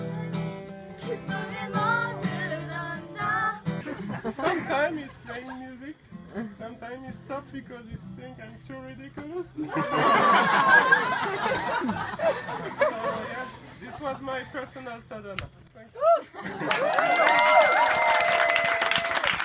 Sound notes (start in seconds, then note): 9.6 laughs; 16.6 applause